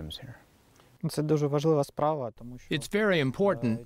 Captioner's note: through translator